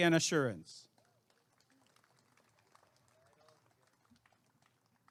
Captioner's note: applause and cheering